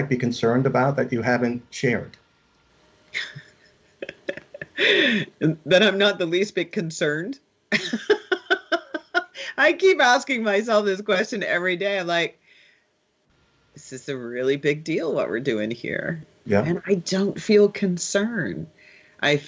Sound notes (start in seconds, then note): 3.1 laughing; 7.8 laughs